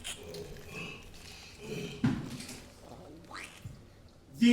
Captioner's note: grunts